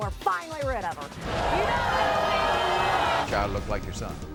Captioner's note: audience booing